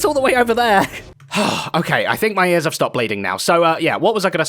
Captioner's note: sighs